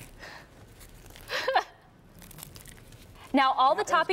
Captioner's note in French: laughter